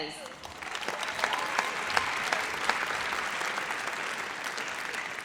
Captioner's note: audience applauds